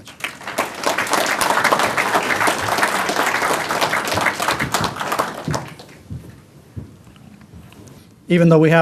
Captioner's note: applause